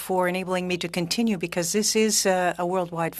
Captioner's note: speaking French